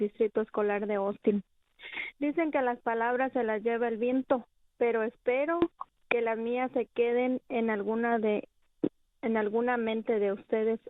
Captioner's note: speaking spanish